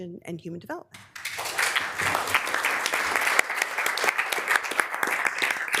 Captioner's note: members applauding